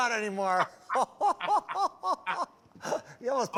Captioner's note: laughter